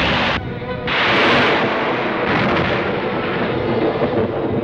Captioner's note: thunder crashing